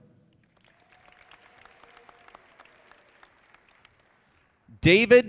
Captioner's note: audience clapping